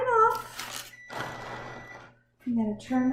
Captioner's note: oven beeps